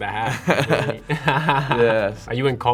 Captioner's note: laugh